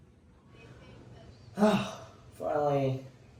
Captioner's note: sighs